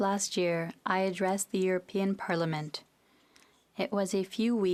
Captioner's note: speaking FRENCH